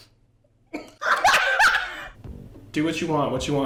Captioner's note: laughs